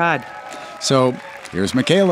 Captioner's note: audience applauding